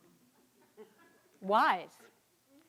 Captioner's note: students laughing